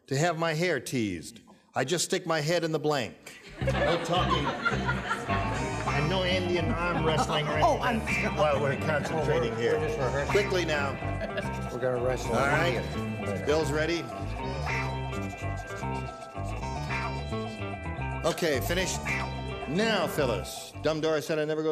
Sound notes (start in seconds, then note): 3.2 laughter